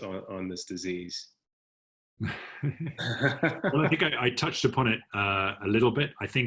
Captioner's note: laugh